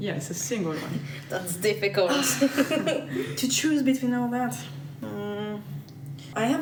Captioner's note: laughs